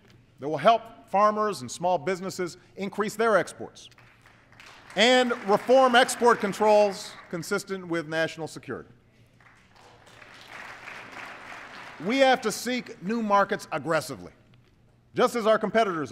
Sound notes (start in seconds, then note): 9.3 applause